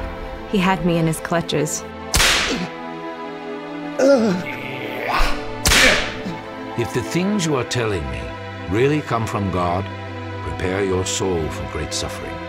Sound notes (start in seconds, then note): 2.1 whip crack; 3.9 grunting; 4.0 heavy breathing and crying; 5.6 whip crack